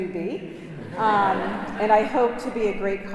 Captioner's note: congregation laughing